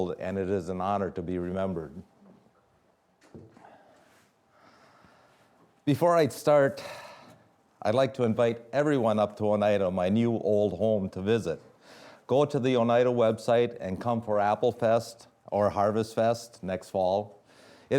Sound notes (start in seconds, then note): none